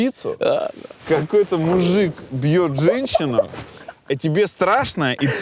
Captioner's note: Anton laughs